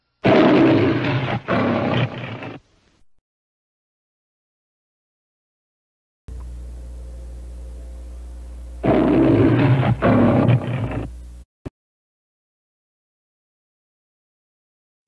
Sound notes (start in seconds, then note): 0.2 Leo the Lion roars; 2.6 silence; 8.8 Leo the Lion roaring; 11.9 silence